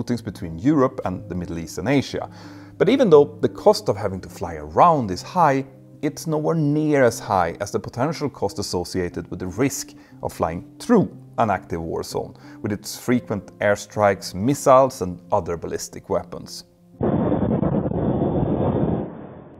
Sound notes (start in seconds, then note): 17.0 missile crackling